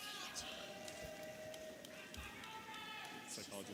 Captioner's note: audience applauding and cheering